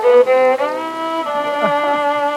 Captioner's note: laughs